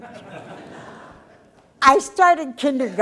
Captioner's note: audience laughter